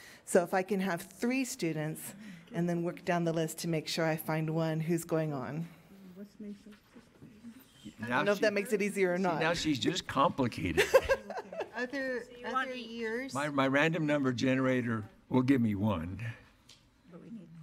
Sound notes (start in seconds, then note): 10.7 laughter